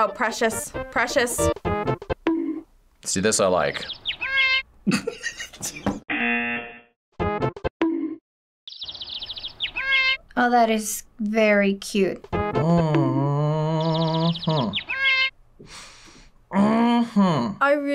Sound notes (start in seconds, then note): 3.4 birds tweeting; 4.2 cat meows; 4.8 laughs; 5.3 buzzer rings; 8.6 birds tweeting; 9.7 cat meows; 14.8 cat meows